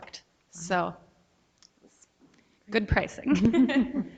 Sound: laughs

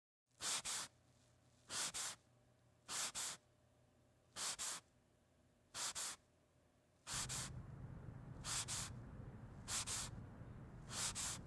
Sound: scrubbing noises

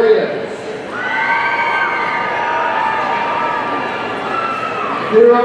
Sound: audience cheering

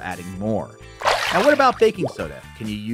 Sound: water splashing

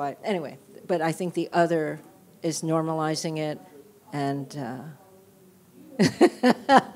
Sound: chuckles

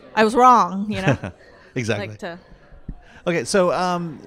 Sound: laughs

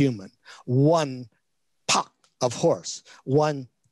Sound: speaks in Chinese

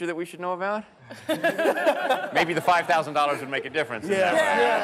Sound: laughter

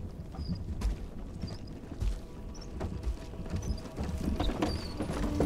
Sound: cart trundles

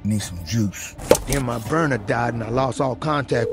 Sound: bottle thuds

